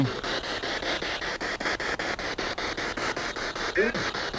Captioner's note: noise of the spiritbox in the background